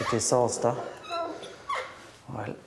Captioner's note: squeaking